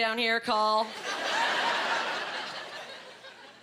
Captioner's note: laughing